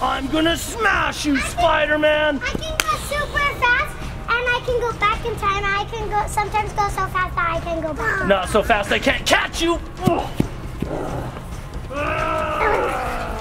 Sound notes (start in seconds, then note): 10.8 grunts